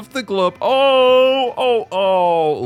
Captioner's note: awwwwww